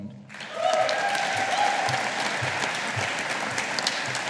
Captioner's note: audience applauding